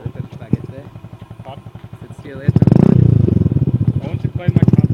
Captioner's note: people chatter